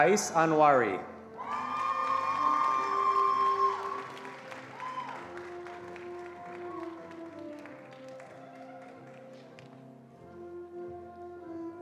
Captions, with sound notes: Qais Anwari. (attendees applauding)